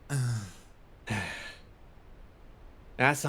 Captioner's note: sigh